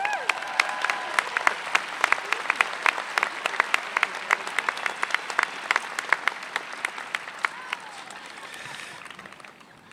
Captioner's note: applause